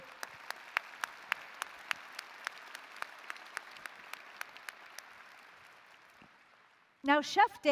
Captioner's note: applause